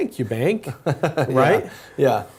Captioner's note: laugh